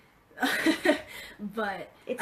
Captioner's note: laughs